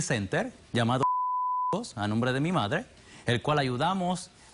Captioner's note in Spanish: Bip